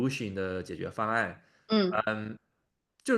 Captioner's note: nonverbal grunt as interjection